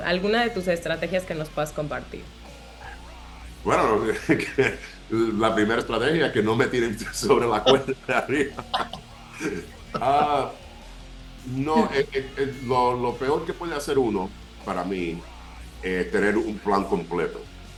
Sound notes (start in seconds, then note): 2.7 laugh; 6.8 laugh